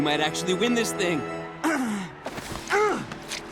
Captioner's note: grunting